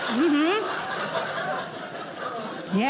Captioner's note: audience laughing